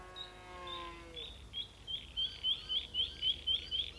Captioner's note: cows mooing; birds chirping